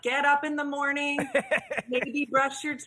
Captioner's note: laughs